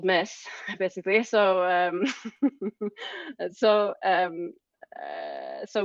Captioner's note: laughing